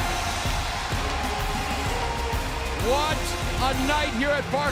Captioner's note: cheers and applause